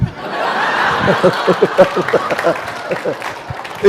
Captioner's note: laughter